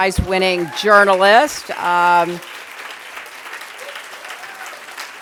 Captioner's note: applause